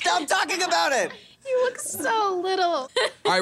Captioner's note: laughing